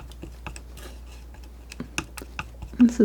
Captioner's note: scratching